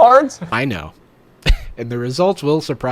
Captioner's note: laughs